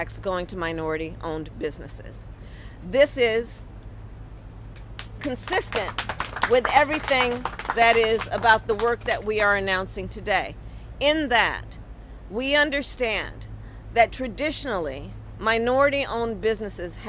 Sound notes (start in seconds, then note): 4.7 applause